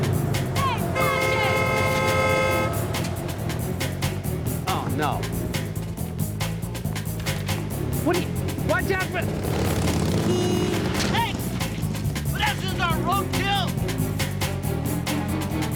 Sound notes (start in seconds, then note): 1.9 car horn blaring; 8.7 car horn honks